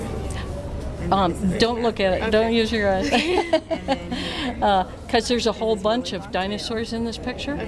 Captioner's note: laughs